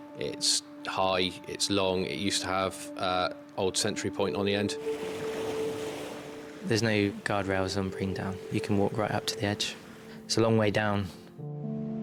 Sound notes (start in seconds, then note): 4.5 waves splashing; 4.8 somber music; 11.8 upbeat music